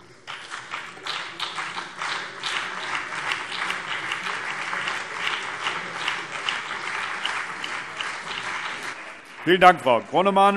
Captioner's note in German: Beifall BÜNDNIS 90/DIE GRÜNEN und CDU